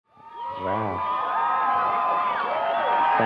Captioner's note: applause